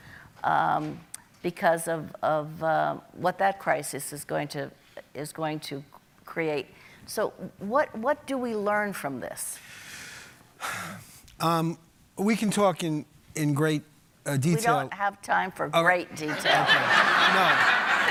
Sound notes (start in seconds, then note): 10.6 sighing; 16.2 audience laughing